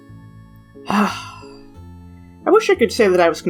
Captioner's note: sigh